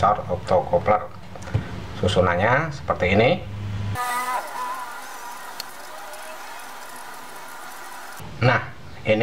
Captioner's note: clap